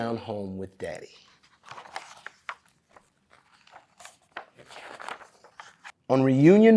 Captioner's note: pages rustling